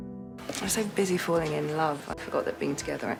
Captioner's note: voiceover